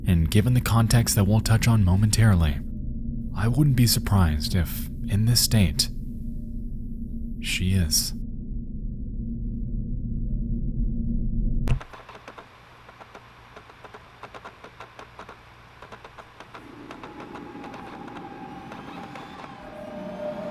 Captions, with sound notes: and given the context that we'll touch on momentarily, I wouldn't be surprised if, in this state, she is. (console whirring) (harsh tones)